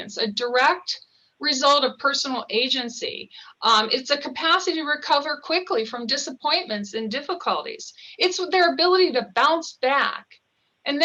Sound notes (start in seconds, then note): none